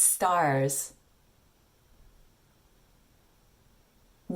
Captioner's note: astounded silence